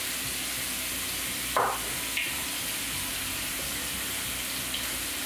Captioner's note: bowl banging